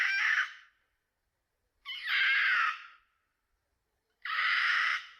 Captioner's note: Ashleen shrieking